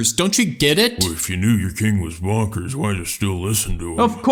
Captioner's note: mumbling